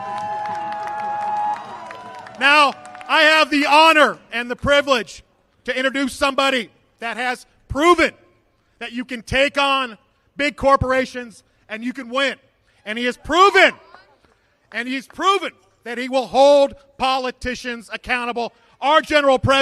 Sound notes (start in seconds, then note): 2.6 applause